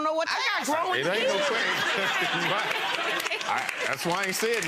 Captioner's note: audience laughs and claps